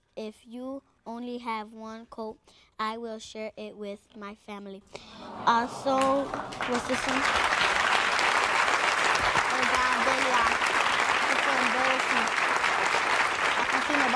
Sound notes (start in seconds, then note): 5.1 audience members awing; 7.6 audience cheering and applauding